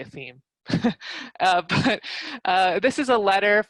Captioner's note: laugh